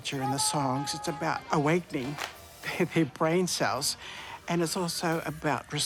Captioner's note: chuckles